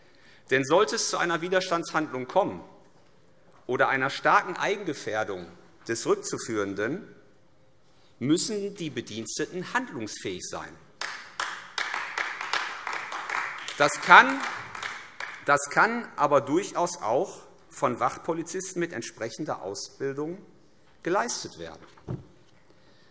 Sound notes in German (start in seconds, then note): 11.0 Beifall AfD